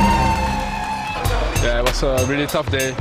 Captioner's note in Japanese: 歓声